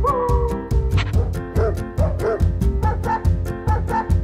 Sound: dogs howling

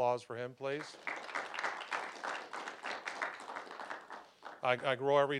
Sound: applause

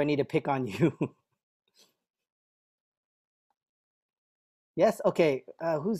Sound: laughter

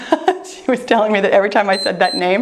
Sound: timer beeps

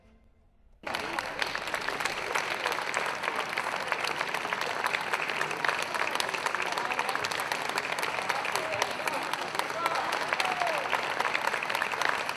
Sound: people Clapping

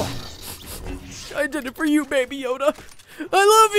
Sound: sniffs

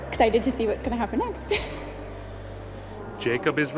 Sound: laughs

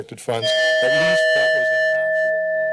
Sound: timer dings

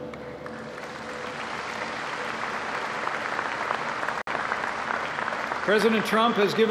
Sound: applause

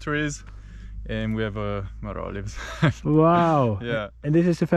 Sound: laughs

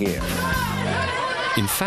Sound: crowd yelling

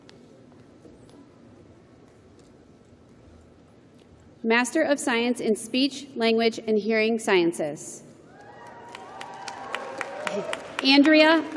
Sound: cheering

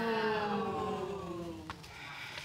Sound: audience booing

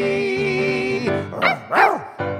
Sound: barking

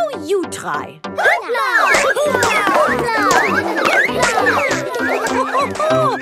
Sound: all laugh

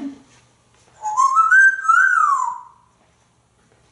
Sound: whistling

